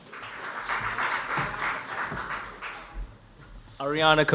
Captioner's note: audience applauds